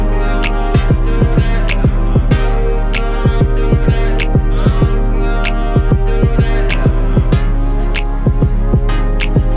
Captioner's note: laugh